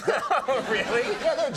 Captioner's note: laughing